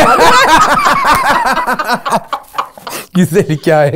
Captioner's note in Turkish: Güldüler